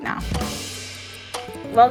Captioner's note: timer dinging